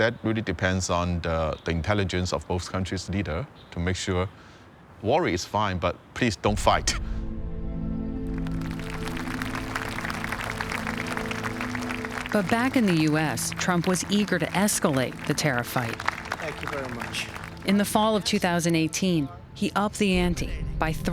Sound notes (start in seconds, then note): 9.0 audience applauding